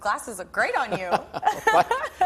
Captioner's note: laughing